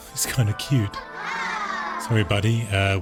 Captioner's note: exclaims; children exclaims